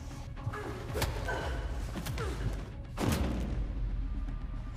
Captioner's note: tense music continues; blows thudding